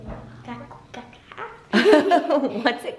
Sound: playful gibberish; laughs

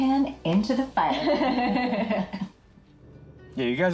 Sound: both laughing

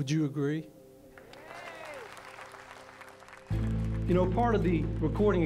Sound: audience applauds

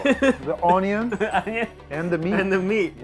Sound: laughing

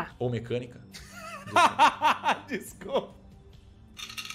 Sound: laughs

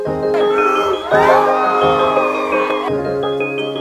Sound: cheering

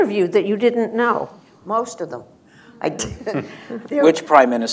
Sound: laughter

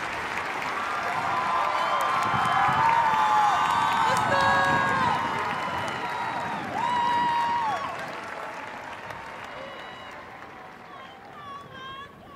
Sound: cheers and applause

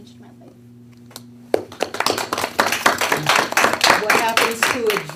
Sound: board members applauding

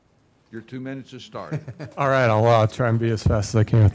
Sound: chuckles

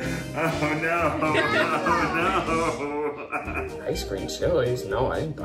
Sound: laughs

